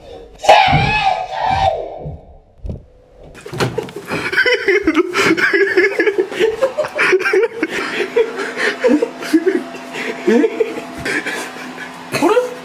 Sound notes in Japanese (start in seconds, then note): 3.7 笑い声